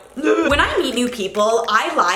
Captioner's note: retches